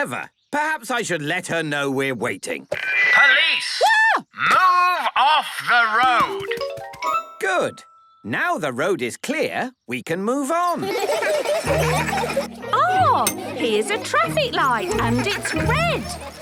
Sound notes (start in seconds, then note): 10.6 laughter